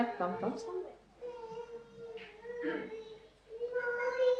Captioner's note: A baby make word-like noises to which Mother responds: “Ah, who’s there?